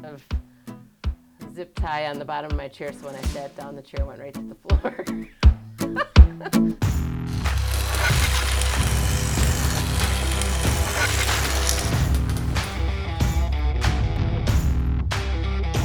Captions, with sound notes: of zip tie on the bottom of my chair. So when I sat down the chair went right to the floor (laughing). (metal grinding over country rock riff)